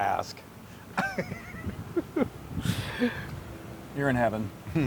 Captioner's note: laugh